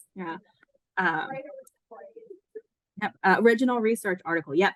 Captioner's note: background chatter